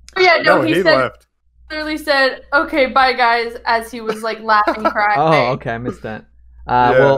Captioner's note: laughs